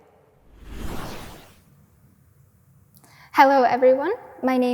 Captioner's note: whooshing sound effect